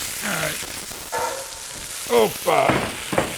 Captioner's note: grunting